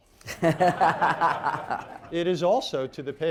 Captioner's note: laughter